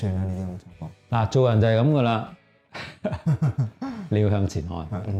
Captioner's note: chuckles